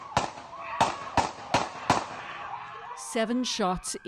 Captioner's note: gunshots